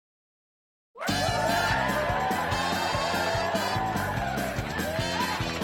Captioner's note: fanfare and cheering